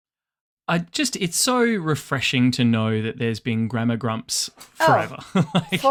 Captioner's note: laughs